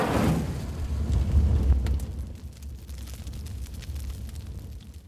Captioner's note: fire crackling